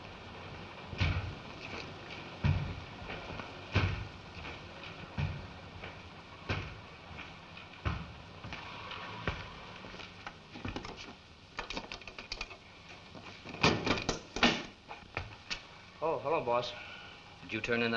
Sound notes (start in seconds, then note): 0.5 thudding footsteps approaching